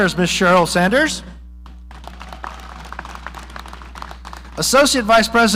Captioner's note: audience applauding